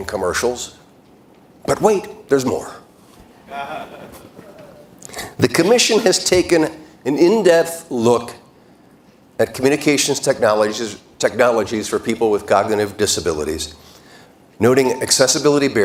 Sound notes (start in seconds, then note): 5.8 laughter